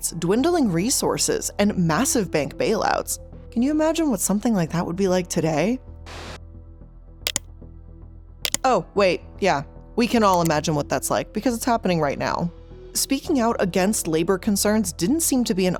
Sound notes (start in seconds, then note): 7.2 computer mouse clicking